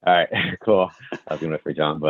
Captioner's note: laughs